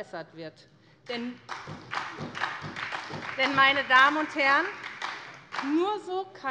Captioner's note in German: Beifall bei der SPD